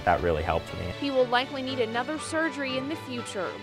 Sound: voiceover

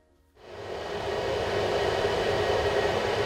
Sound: ventilation whizzing

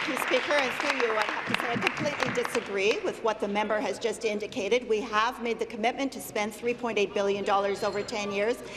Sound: applause

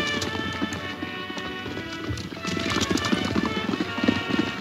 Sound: dramatic music; horse hoof beats

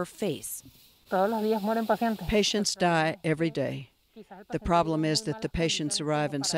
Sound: through translator

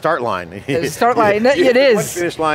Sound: chuckling

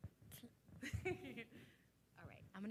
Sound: laughing

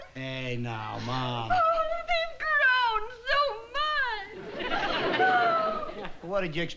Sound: crying

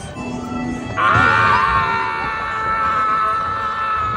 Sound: screams

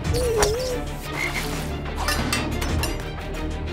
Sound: croaking

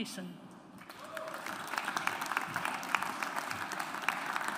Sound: audience applauds

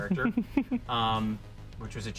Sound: laughs

